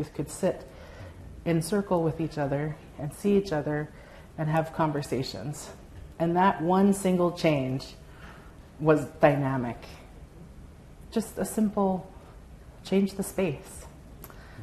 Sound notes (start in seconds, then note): none